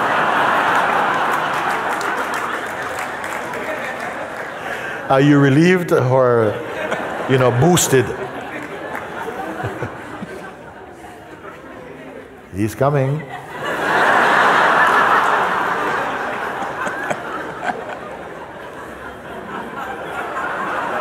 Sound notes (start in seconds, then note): 0.1 loud laughter and applause; 9.4 laughter; 15.4 laughter